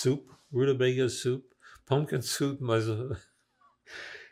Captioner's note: laughing